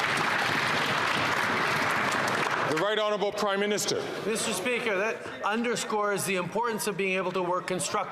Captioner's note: some Applause